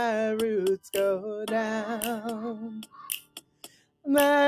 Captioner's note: raven caws